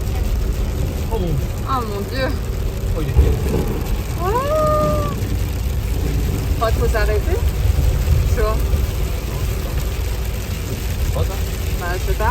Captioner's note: thunder